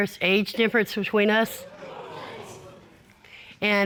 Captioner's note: audience exclaiming